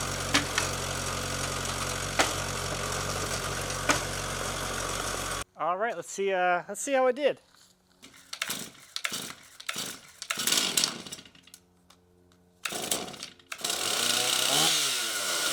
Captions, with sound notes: All right, let's see how I did. (chainsaw putters)